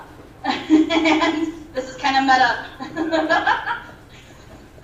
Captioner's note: laughter